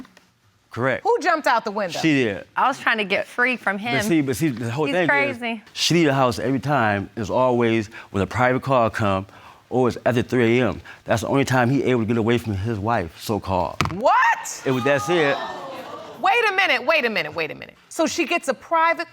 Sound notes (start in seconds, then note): 13.8 audience gasps